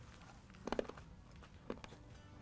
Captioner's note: crunch; crunch crunch